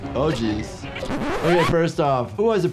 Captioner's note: record scratch